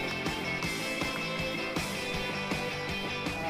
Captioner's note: cheering and applauding